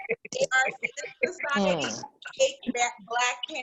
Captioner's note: laughing over each other